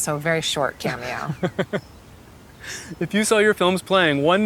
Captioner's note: camera Man chuckling